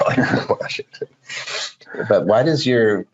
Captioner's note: laughing